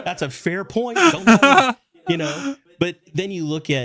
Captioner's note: laughing